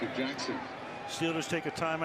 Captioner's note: pa announcement